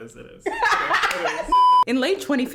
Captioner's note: laughs